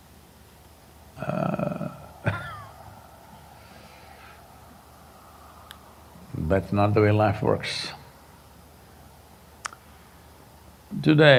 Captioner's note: laughs